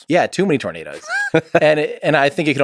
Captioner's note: Lex laughs